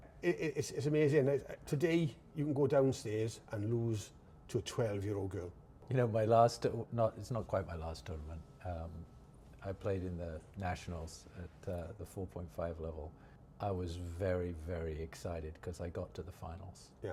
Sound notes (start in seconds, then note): none